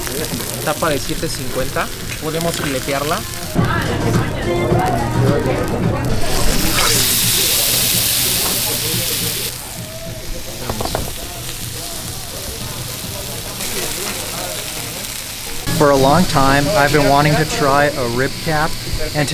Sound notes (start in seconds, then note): 0.0 meat sizzling; 4.0 diners talking; 7.0 meat sizzling